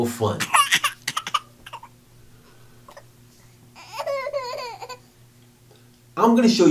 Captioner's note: sound of baby crying